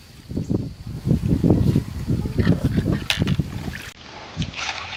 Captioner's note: water splashing